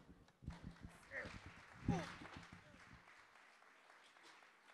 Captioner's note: audience applause